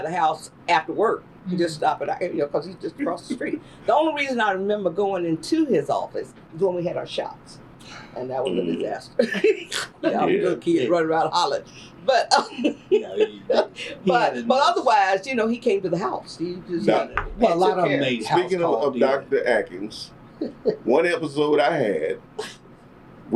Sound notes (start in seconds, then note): 9.2 laughter; 13.4 laughs